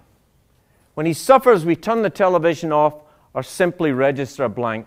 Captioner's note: none